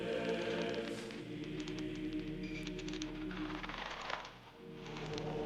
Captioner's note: rope creaks